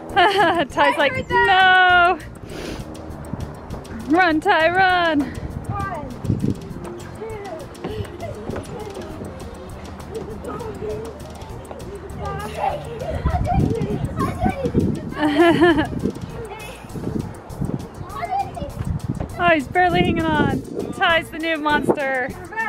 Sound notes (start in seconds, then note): 0.1 laughing; 12.5 yelling; 15.3 laughing